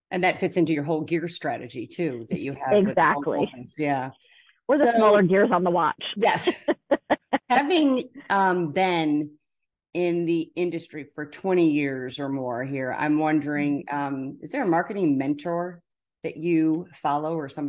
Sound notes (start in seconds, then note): 6.2 chuckling